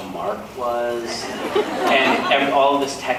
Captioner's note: laughs